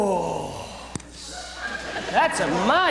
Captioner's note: laughter